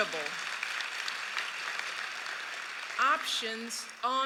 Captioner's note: applause